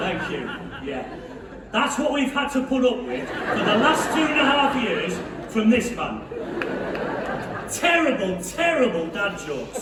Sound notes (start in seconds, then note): 0.1 scattered laughter; 3.1 laughter; 3.2 loud laughter